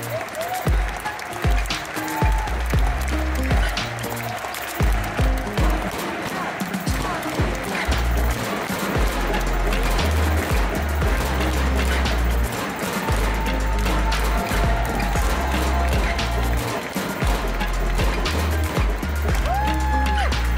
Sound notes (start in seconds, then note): 0.1 applause; 0.1 ♫ Midtempo guitar music ♫; 7.0 audience stomps with their feet on the metal stands; 16.7 applause; 17.3 ♫ Midtempo guitar music ♫